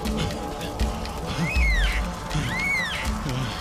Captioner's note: cawing